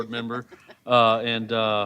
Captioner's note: laughter